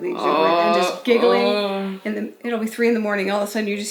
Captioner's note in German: murmelt